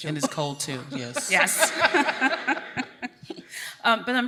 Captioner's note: laughs